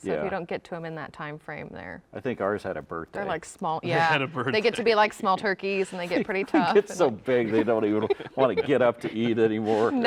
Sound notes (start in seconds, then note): 4.4 laughs